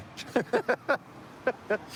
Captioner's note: laughter